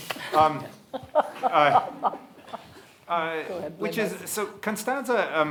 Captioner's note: panelists and audience laugh